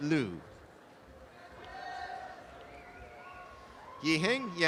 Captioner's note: applause and cheering